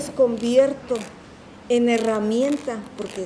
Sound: speaking in Spanish

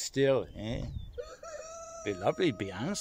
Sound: cock crows

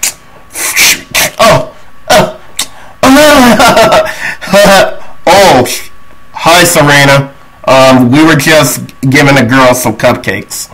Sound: screectch

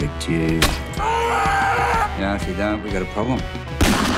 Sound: screams; gun shot echoes

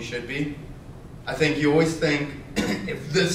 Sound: coughs

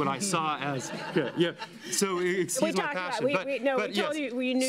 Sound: laughter

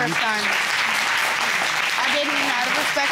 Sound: audience applauding

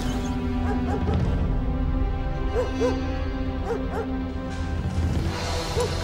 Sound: somber orchestral music; dog barking; dramatic orchestral music

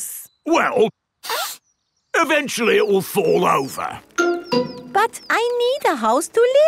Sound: sniffs

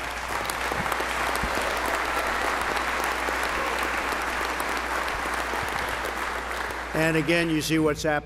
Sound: applause

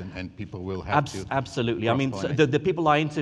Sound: moderator speaking faintly

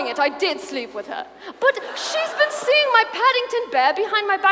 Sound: audience laughs

